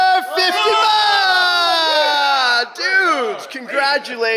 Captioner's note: all cheering